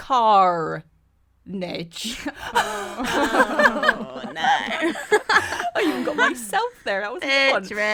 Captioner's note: groans of laughter